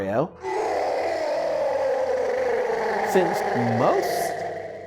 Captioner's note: Bowser roars